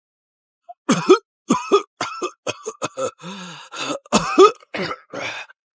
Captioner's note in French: Tousse